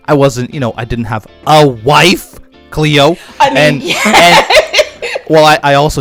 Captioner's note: laughs